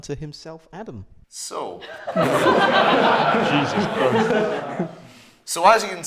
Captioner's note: laughter